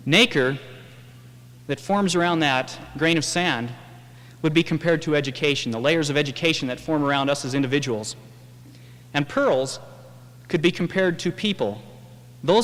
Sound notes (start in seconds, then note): none